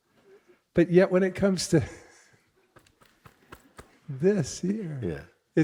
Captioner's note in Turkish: sessizce kıkırdar ve kalbine dokunur